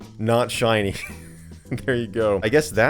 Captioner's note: chuckles